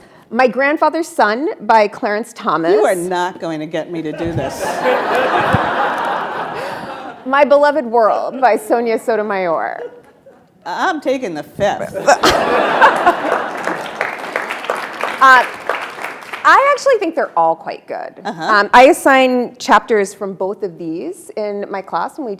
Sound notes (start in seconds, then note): 4.0 attendees laughing; 11.9 attendees laughing; 12.2 attendees applauding